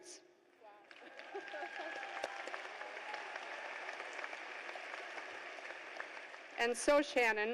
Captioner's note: cheers and applause